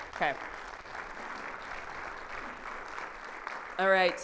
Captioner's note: audience applauding